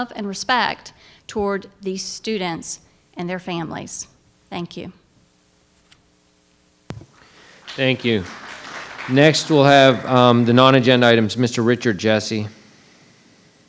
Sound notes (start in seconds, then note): 7.2 attendees applauding